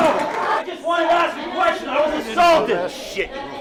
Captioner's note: yelling